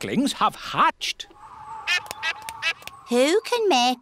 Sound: all quacking

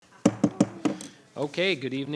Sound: gavel banging

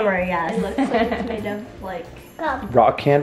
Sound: chuckles

